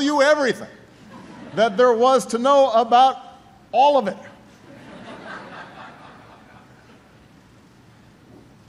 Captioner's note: laughter